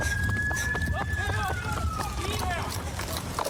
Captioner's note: shouting